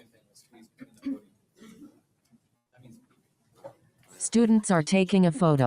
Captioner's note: people chatter indistinctly